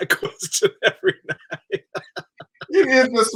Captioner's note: he laughs